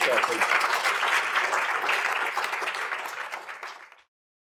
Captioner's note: audience applauds